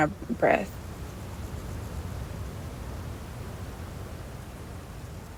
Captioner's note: A soft wind blows against a canopy of trees